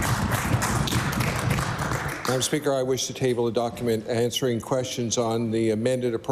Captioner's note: applause